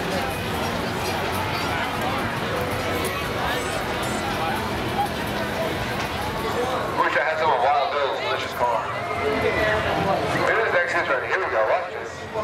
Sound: crowd sounds

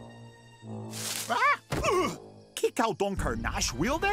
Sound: grunts, groans

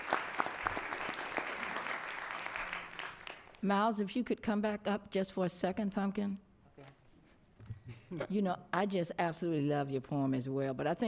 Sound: applause

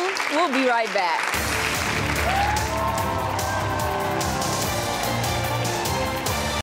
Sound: audience clapping and cheering

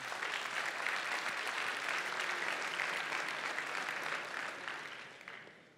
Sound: applause

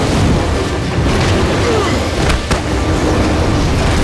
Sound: grunting

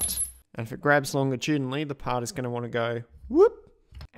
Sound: whoop!

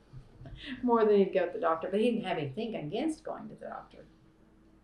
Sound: laughs

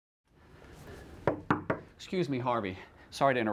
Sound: urgent knock at the door

